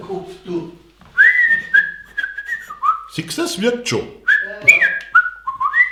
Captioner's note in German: pfeift